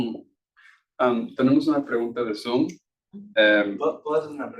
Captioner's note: speaking Spanish; attendee speaking Spanish